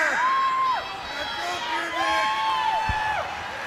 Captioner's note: crowd cheering